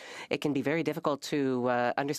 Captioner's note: speaking French